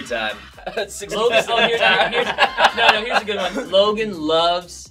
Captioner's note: all laugh